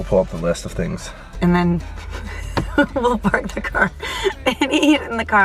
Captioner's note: laughs